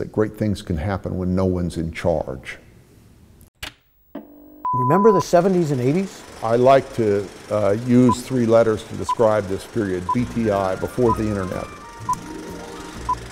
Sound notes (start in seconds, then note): 4.5 long beep; 8.8 numbers beep